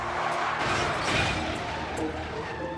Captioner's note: sounds of car accident